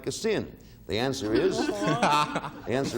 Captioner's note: all laughing